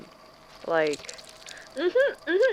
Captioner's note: squelching noise